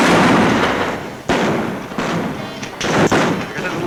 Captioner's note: guns bang